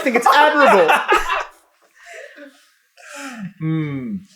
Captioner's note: laughter